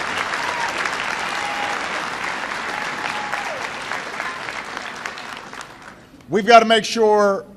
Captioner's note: applause